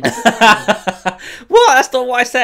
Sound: laughs

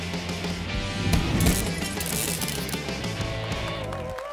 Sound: graphics whooshing; glass shattering; audience cheering

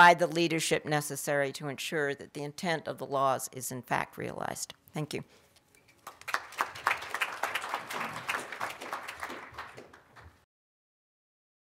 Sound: applause

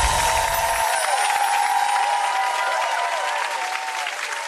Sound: chimes; cheering and applause

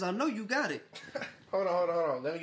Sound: laughs

